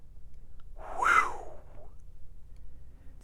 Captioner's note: sigh